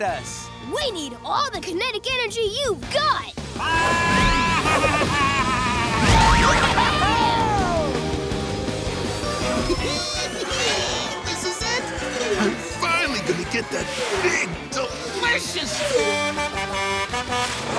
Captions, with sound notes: We need all the kinetic energy you've got! [bleating] [Crusher laughing] This is it! I'm finally gonna get that big, delicious... [honking]